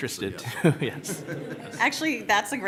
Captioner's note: laughs; laughter